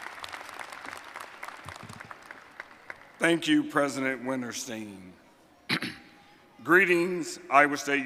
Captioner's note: applause